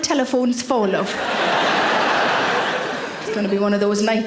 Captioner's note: audience laughing